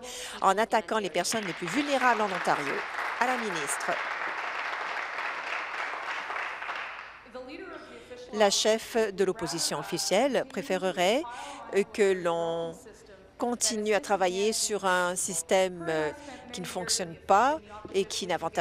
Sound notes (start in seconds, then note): 4.4 applause